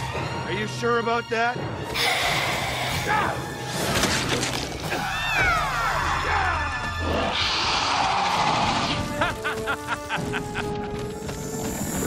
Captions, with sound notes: Are you sure about that? (Screeches) (Evil laughing)